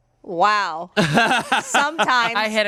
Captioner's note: laughs